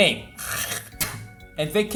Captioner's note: spit